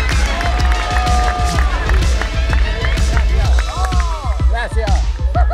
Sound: cheering; applause

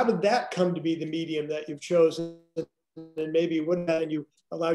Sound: audio distorts

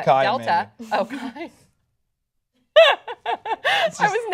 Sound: laughter

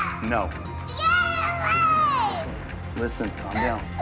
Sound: yelling

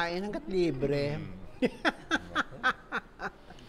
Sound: laughs

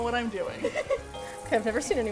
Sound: laughs

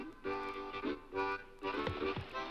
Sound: brook babbles

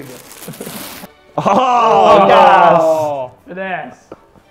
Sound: laughs

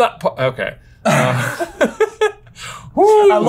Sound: laughs

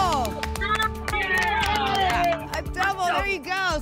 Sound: applause and cheering

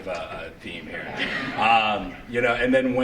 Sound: laughter

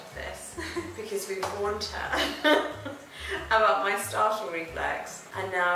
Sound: chuckles

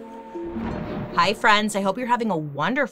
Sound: thunder claps

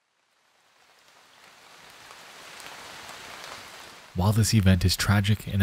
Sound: rain falling

